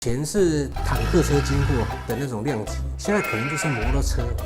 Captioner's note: snoring